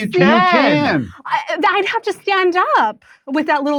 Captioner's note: strained